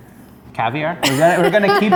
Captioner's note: laughs